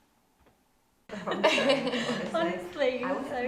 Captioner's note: group laughing